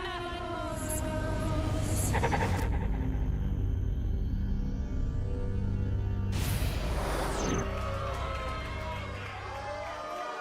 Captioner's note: crowd cheering